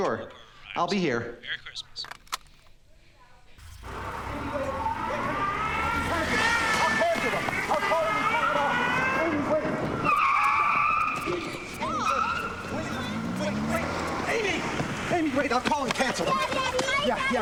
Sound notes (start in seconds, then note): 1.4 on phone; 3.6 on phone; 10.1 tires screeching